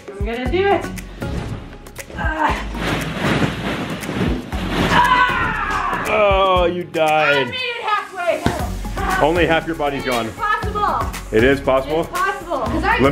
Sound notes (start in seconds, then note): 2.6 balls crunching; 4.8 screams